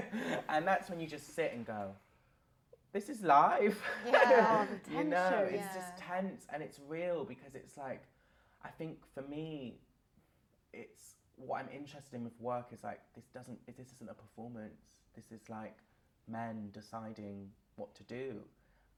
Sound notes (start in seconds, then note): 3.7 laughter